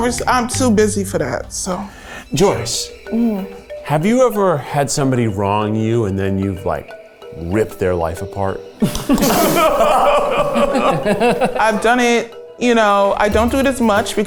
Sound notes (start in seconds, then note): 8.8 everyone laughing